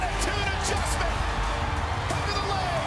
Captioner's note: crowd cheering